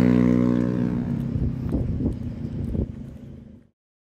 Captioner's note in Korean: 뚜벅뚜벅